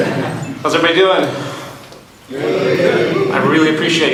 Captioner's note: audience in unison